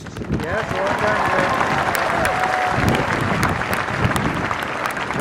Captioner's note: crowd cheering and applause